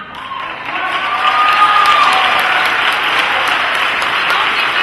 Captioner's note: applause